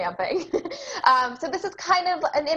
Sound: laughs

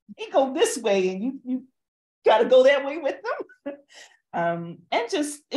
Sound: chuckles

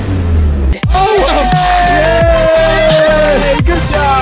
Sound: cheering loudly

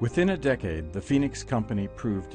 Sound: voiceover

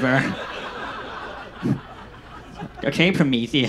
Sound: audience laughs

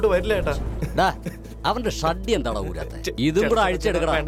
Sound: sobbing

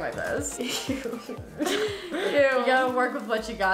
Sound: laughs

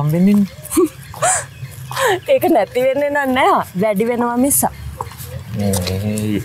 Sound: laugh

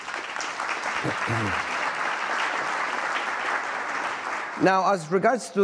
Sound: applause

